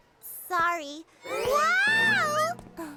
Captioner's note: breathy voice